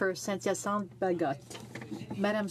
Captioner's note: speaking French